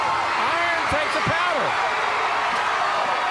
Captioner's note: crowd cheering